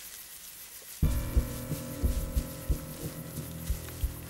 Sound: crickets chirping

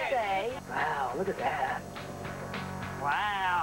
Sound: normal voice

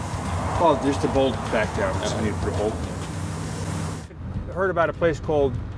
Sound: voiceover

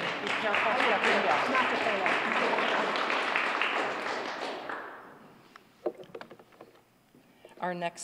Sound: applause

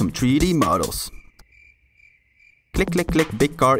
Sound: crickets

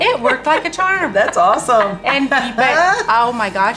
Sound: laughs loudly

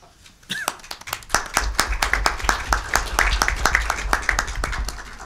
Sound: audience clapping

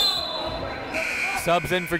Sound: whistle blows; buzzer goes off

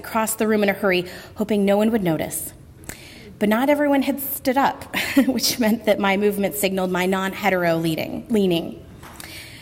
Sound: laugh

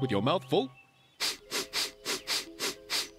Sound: sniffs

